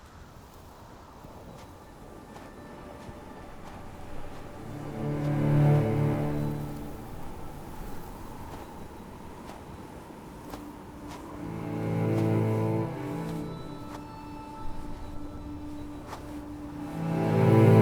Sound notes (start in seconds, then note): 3.8 footsteps thudding